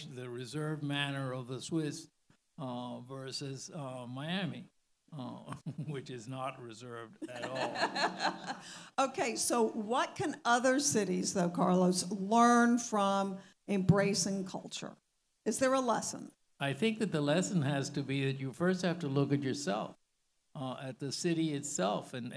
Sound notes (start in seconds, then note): 7.2 all laughing